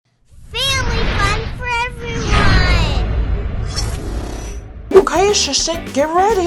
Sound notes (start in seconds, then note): 3.6 explosion sounds